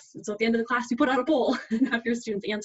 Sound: laughs

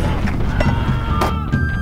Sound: man screams

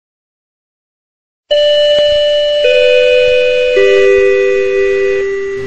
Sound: Tannoy ping pong

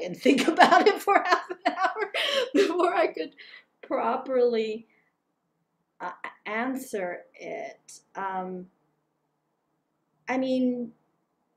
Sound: laugh

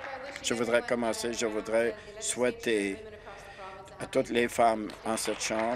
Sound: applause

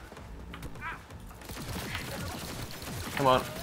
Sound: gunfire

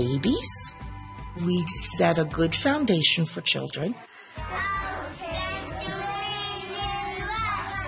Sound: background Conversation

